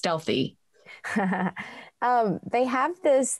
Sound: chuckles

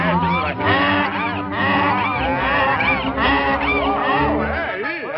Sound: donkey braying

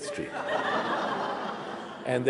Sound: laughter

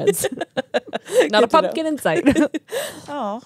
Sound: laughs; chuckles

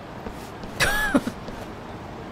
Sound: chuckles

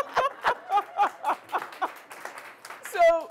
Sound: laughing; applause

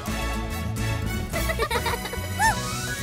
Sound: giggling

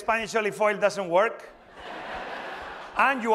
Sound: laughter

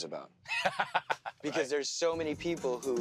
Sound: laughs

